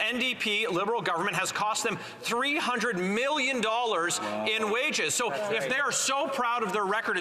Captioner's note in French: voix de l'interprète